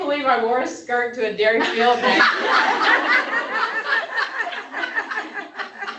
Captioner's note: laughter